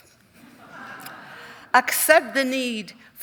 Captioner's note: audience chuckling